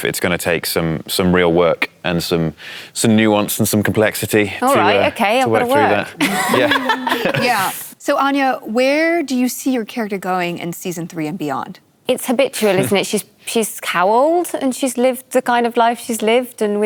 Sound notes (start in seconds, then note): 6.2 laughter